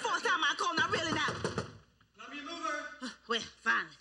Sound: knocking on door

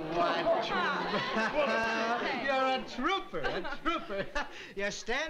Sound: laughs

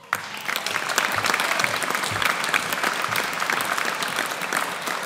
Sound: audience applauds

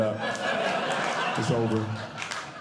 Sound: audience Laughing

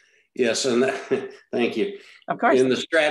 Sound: laughs

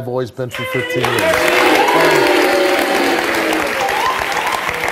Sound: audience applauds

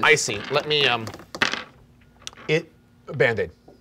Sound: rolling dice

